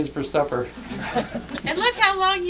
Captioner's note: laughter